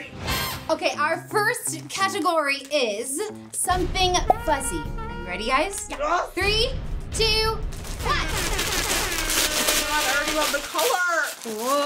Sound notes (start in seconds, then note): 4.5 jazz music; 7.8 papers rustling; 8.2 horns blazing